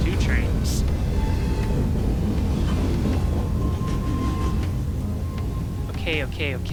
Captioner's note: trains rumbling